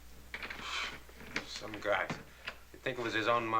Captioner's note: sighs